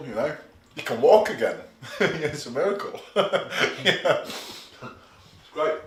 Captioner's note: laughs